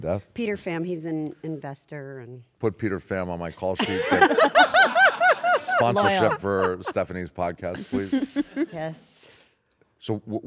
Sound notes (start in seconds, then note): 3.8 laugh